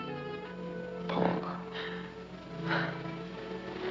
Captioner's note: Paula sighs